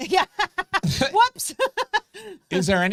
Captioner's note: laughs